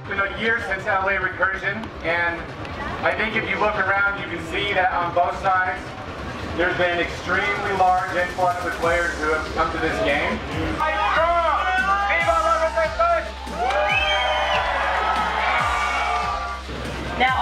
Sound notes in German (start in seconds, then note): 10.8 Menge jubelt